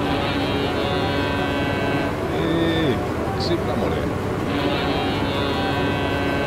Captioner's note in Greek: Κόρνα!